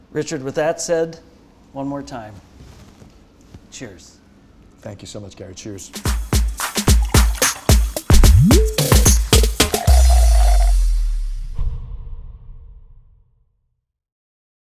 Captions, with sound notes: - Richard, with that said, one more time, cheers. - Thank you so much, Gary, cheers. (upbeat music) (sucking through a straw)